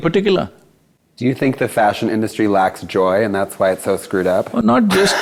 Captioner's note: laughs